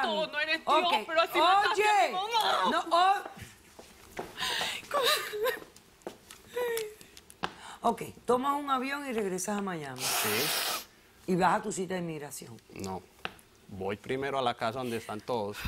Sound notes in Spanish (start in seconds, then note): 6.5 Sollozos